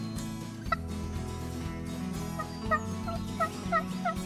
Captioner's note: turkey call yelps